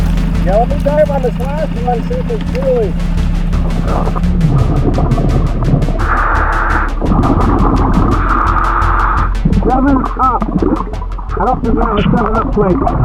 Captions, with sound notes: Yeah, I'll be diving on this last one to see if it's Julie. (oxygen bubbling in water) (oxygen tank hissing) 7UP, I don't think we have a 7UP plate.